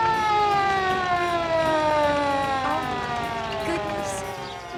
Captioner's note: siren wailing